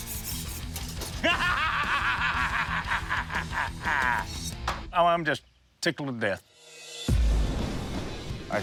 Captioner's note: laughs